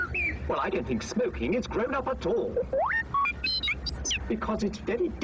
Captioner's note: beeping; R2 beeps